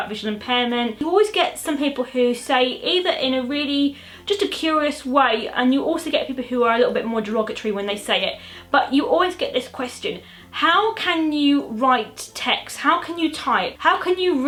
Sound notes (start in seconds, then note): none